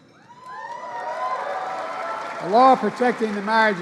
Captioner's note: applause